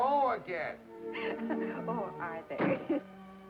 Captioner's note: Mary laughing